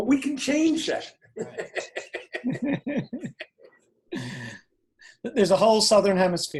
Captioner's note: laughter